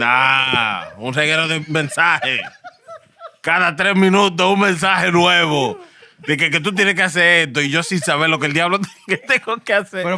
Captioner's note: speaking Spanish